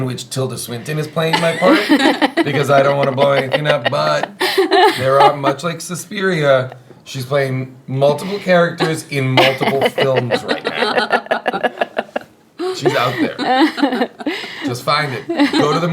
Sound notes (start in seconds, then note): 10.8 laughing